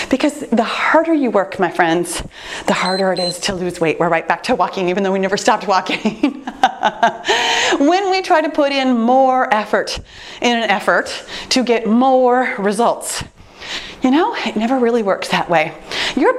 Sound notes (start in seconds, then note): 2.8 timer beeps; 5.8 laughs